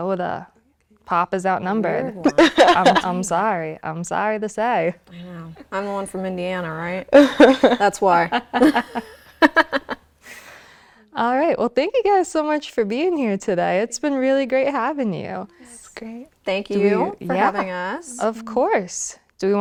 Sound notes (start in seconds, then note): 7.1 laughing; 8.4 host laughing